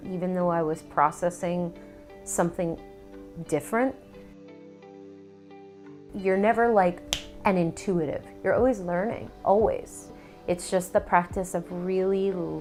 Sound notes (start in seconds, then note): 7.1 snaps